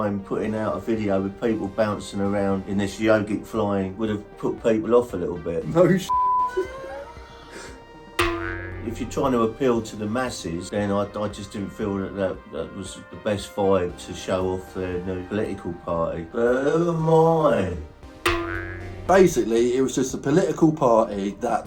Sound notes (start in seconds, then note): 6.1 beep; 6.4 both laughing